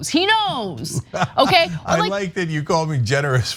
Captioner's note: laugh